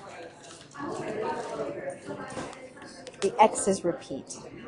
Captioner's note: stylus taps